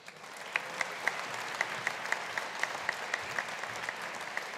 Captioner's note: audience applauding